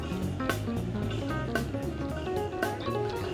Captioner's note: none